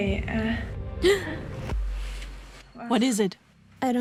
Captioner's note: gasps